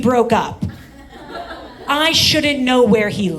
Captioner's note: audience laughs